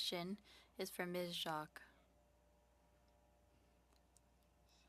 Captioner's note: speaking French